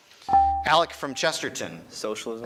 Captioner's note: buzzer chimes